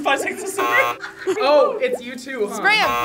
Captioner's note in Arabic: أصوات الجرس